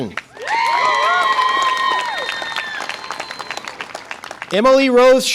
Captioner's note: audience applause and cheer